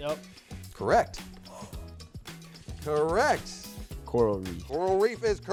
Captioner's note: gasps